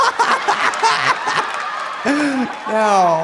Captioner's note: cackles; audience laughing; audience applauding; laughs